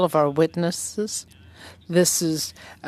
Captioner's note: speaking french